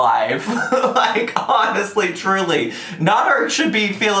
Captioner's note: laughs